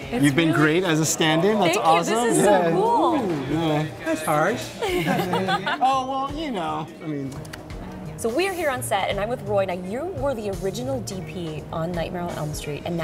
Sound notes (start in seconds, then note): 4.7 laughing